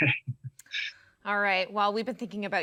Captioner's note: laughing